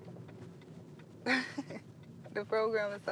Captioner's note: laughing